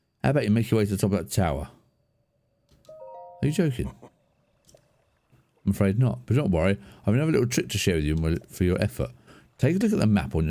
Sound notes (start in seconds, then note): 2.9 chime